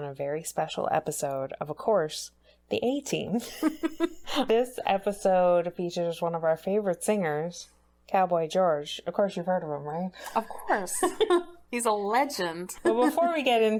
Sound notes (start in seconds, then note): 3.4 laughs